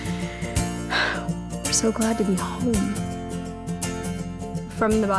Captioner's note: sighs